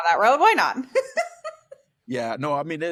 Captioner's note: laughter